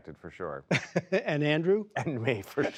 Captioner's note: laughter